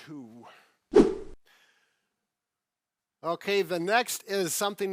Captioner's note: air whooshing